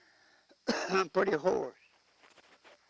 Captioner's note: coughing